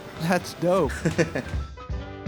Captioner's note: laugh